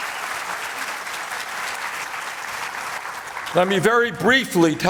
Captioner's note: applause